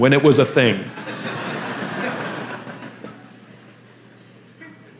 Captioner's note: La audiencia se ríe